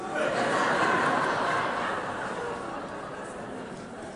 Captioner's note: audience laughing